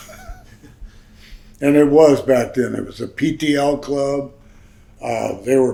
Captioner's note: chuckles